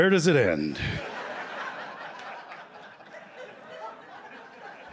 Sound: laughter

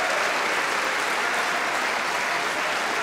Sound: cheering & Applause

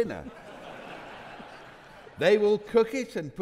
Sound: audience laughing

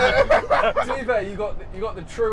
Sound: laughing

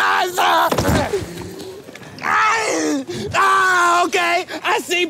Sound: body thumping

